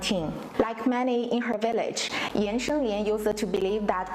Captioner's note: non-english speech